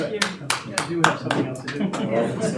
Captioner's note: audience clapping